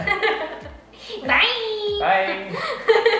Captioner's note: laughing